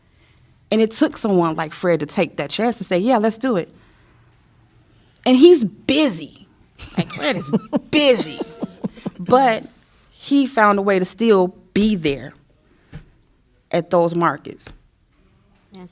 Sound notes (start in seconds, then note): 6.8 laughter